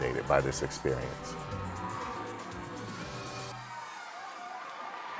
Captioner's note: crowd cheering